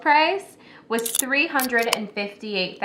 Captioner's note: can opening